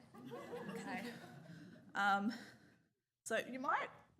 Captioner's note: audience laughs